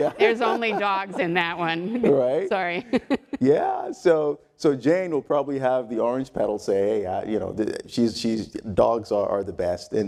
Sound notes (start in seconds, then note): 2.9 laugh